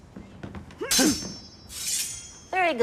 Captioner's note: grunting